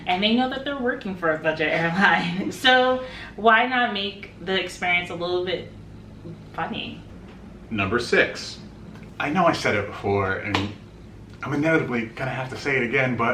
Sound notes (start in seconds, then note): 1.8 chuckles; 10.5 claps